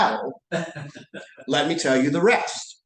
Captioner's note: laughter